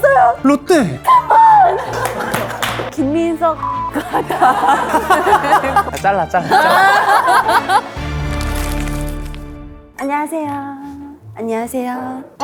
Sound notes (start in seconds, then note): 1.9 applause all around